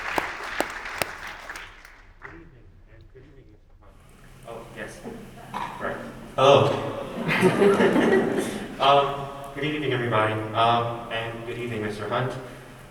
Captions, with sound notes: - Oh, yes, all right, oh. (everyone laughs) - Good evening, everybody. And good evening, Mr. Hunt.